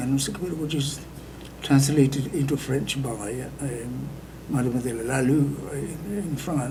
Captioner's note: speaking foreign language